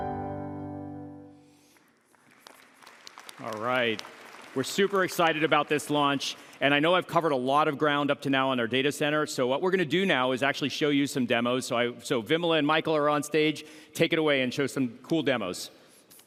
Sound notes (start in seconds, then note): 4.8 applause